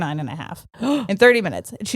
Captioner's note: gasping